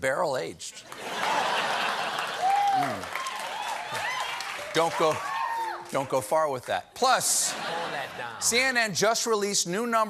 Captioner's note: laughter